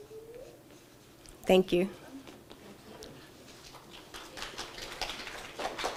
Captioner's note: audience applauding